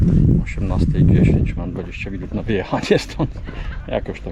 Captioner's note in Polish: śmiech